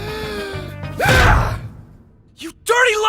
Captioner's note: inhales deeply; hollers